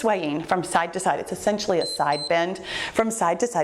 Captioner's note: timer beeps